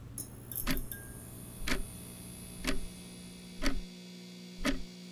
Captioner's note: fluorescent lights buzz